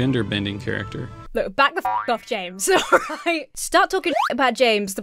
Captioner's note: spring boings; slide whistle blows